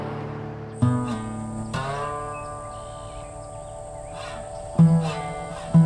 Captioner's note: southern gothic music; wildlife chirping